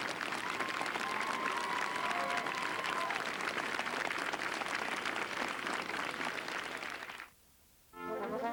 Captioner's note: cheers and applause; closing music